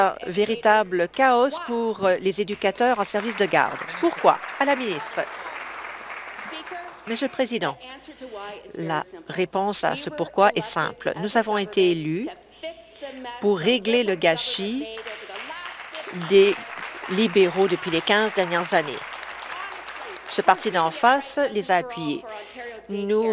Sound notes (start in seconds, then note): 5.4 applause; 22.0 applause